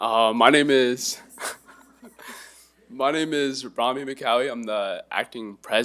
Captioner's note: laughs